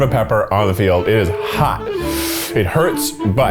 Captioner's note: inhales sharply